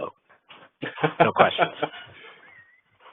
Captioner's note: host laughs